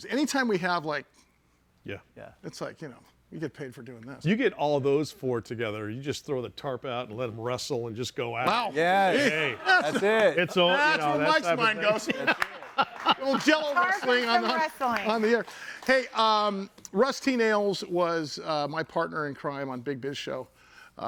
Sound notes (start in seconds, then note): 12.4 laughing